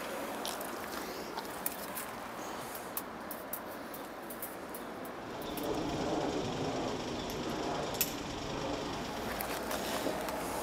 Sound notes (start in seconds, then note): 5.7 traffic noises